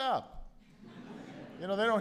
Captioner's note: laughter